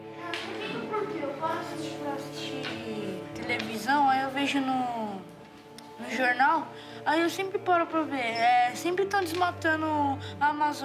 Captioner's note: all speaking foreign language